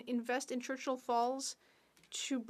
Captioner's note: speaking French